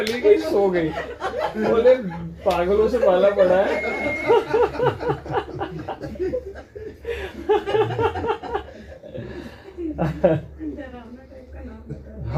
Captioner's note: audience laughter